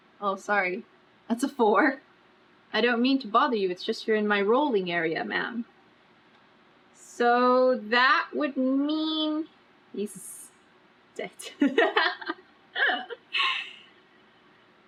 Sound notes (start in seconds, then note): 11.6 laughs